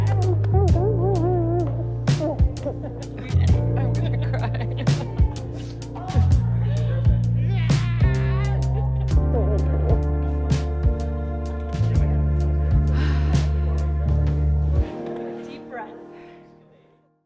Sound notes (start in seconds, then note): 0.0 somber jazz music; 6.2 laughing; 9.4 somber jazz music; 12.8 sighs; 14.4 somber jazz music